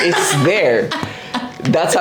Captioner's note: laughs